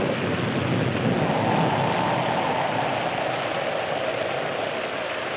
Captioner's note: wind howling